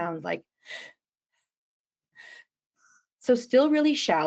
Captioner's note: shallow breathing